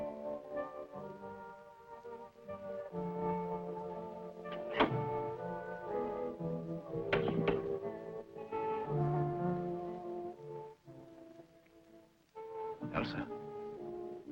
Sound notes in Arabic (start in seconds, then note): 4.9 نقرات الباب